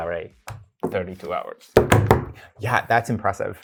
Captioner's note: guy banging table